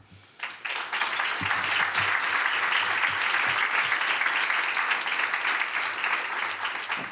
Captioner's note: applause